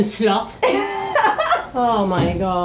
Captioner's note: laughs